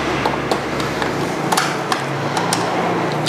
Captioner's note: uninstalled damper sound